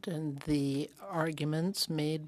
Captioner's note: speaking French